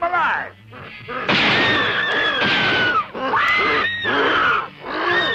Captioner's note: gunshots